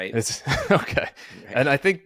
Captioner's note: chuckling